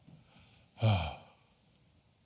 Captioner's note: sighs